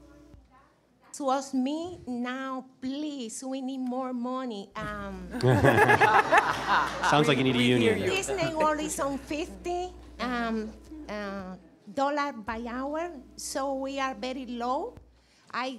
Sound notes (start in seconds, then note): 8.8 woman speaking in foreign language